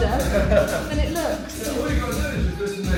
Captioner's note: laughing